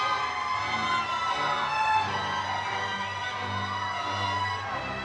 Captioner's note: crowd cheering